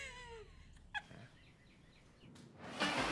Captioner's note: laughing